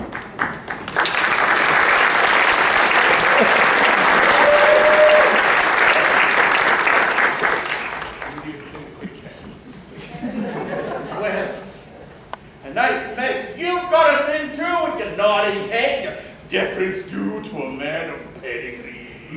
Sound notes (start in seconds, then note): 0.0 applause; 7.8 POOH-BAH mutters; 9.6 laughter